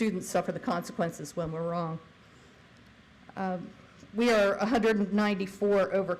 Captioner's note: none